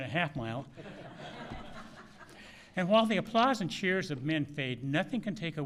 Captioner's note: laughter